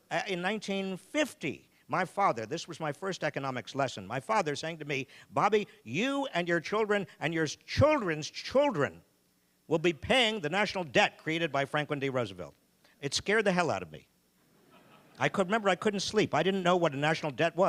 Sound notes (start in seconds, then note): 14.6 audience laughing